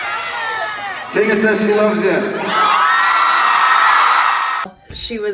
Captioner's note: crowd cheers